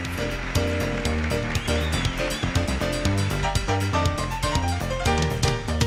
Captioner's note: audience applauding and cheering